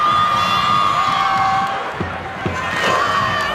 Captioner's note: cheering